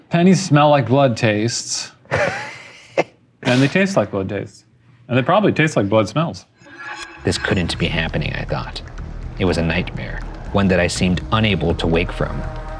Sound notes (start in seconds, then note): 2.1 laughing